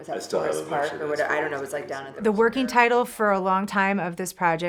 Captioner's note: conversation